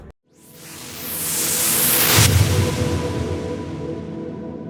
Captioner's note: whooshing